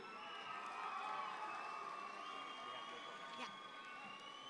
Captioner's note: audience applauds